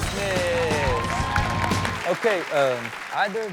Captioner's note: upbeat rock music; audience cheers